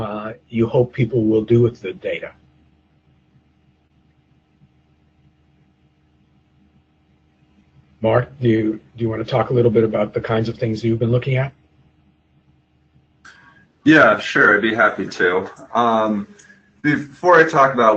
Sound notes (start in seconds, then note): 3.2 pause